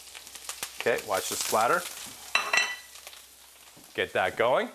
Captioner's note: pan sizzles